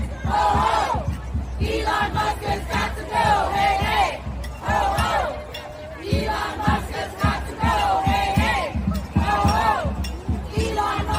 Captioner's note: chanting